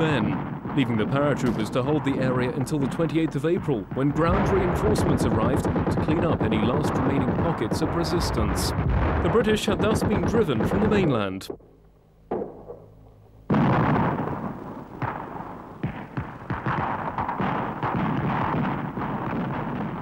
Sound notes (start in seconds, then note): 14.1 artillery exploding